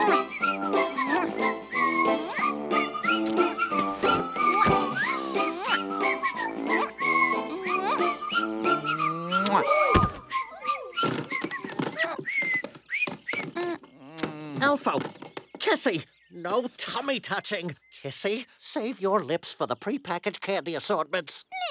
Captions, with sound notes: (lips smack) (lips smack) (elves gasp) (elves moan) (lips smack) - Elfo, Kissy, no tummy touching! Kissy, save your lips for the prepackaged candy assortments!